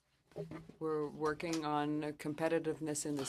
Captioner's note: speaking French